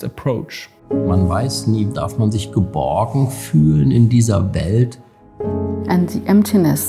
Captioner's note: speaking in foreign language